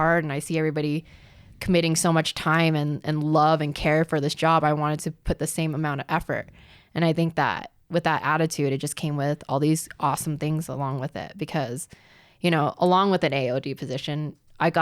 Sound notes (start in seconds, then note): none